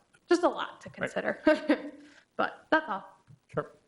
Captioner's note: laughing